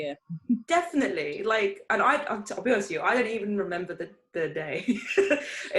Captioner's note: laughs